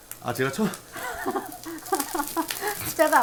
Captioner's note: failed to not laugh